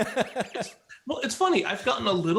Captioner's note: laughs